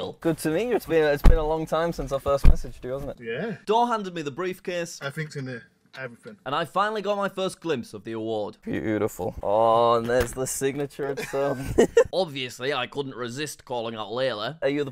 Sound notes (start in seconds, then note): 11.0 both laugh